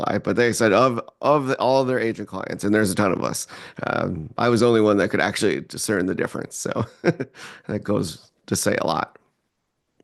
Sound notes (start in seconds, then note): 6.8 chuckles